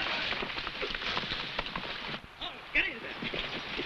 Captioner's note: horse hooves pattering